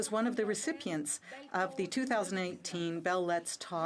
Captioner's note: speaking French